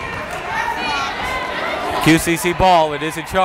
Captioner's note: yelling